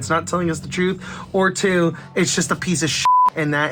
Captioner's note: beep